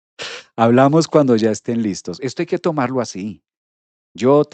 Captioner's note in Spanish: resoplido